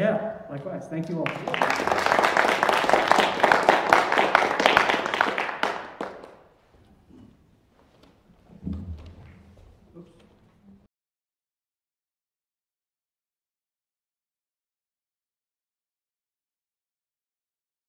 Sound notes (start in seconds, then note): 1.0 applause